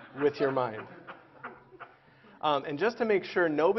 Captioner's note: Laughter; 笑聲